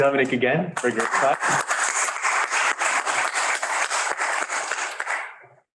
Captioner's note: lecture hall applauding